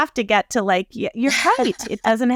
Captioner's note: laughs